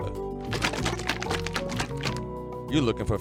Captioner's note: drink making sounds